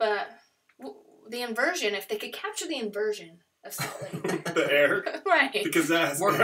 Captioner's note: laughter